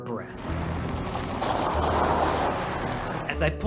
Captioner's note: sound of a car pulling up in gravel